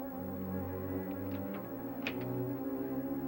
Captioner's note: door knob rattling